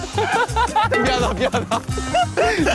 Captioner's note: yang tertawa begitu keras